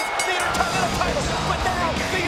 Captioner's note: bell dinging